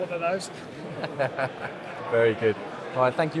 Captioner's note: laughing